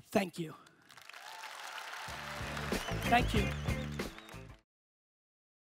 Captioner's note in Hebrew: הקהל מוחא כפיים